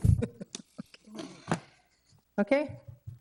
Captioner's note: chuckle